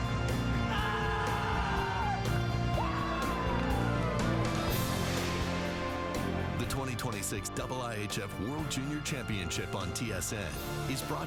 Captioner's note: cheering